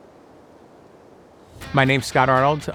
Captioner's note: wind blowing